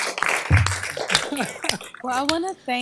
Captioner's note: applause; chuckling